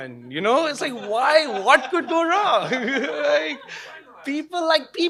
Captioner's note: laughing